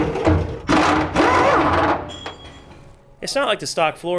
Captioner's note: tools grinding and clunking